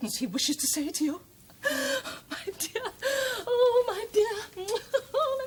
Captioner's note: laughs